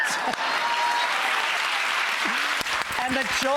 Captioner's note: audience applauds